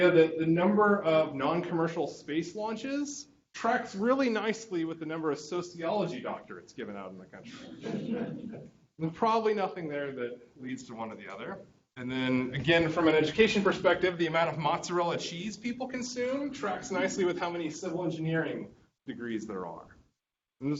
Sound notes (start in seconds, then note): 7.5 students laughing